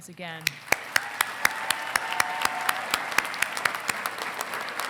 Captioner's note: congregation clapping